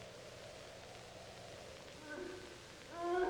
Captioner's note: moaning